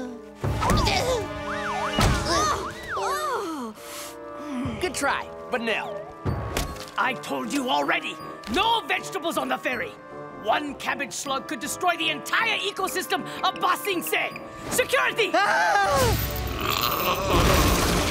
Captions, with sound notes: [groaning] Good try, but no. I told you already. No vegetables on the ferry. One cabbage slug could destroy the entire ecosystem of Ba Sing Se. Security! [groaning]